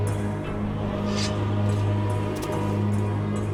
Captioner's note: sword unsheathed